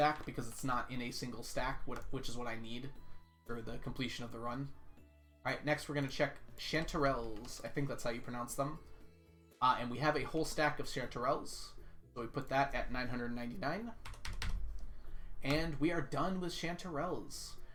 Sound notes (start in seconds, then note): none